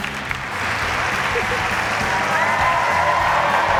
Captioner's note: laughs